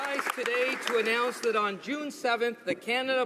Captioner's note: applause